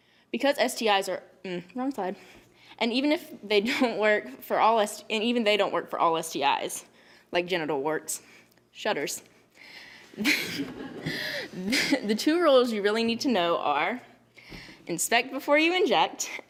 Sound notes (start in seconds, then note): 10.2 laughs